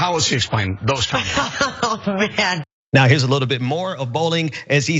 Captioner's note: laugh